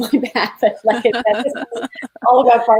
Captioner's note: laughing